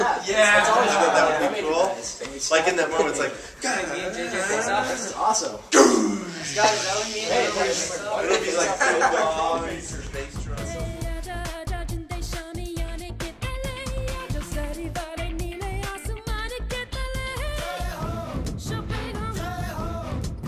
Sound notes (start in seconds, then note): 9.8 more laughs